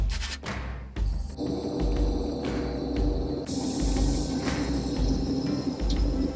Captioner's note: lively percussive music; air hissing